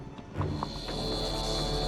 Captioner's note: zapping